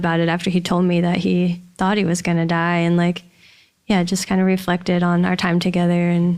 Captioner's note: none